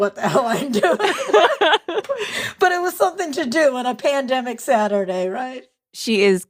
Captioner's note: both laugh